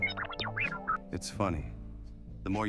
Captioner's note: display beeping